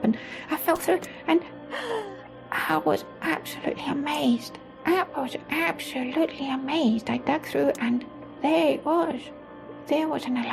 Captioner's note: gasp